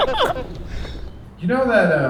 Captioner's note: laughing